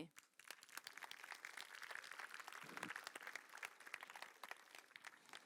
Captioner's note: applause